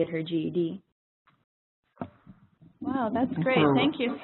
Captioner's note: pause